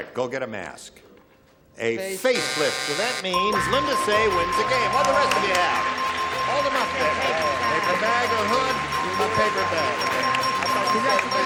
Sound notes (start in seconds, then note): 3.0 buzzer